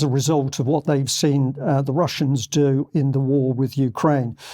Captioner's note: speaking german